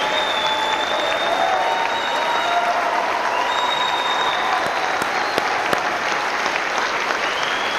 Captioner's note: applause